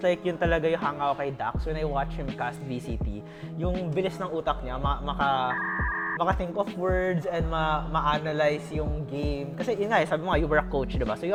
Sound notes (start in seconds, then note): 5.6 loading noise